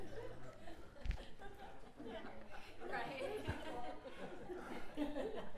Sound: laugh

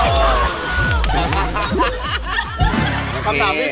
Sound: cheering continues; laughs

